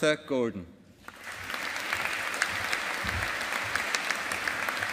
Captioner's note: audience applauding